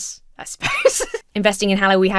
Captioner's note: laughs